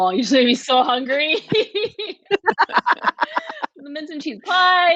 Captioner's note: all laughing